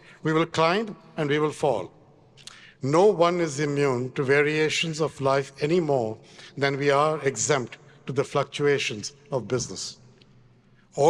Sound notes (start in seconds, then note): none